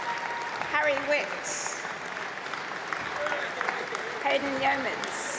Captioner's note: applause